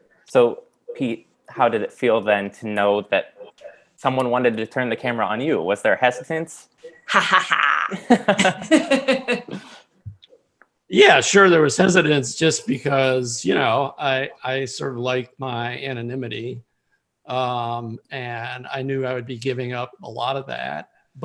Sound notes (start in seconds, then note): 6.9 laughing